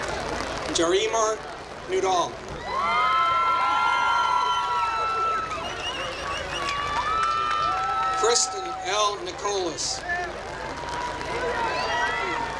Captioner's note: applause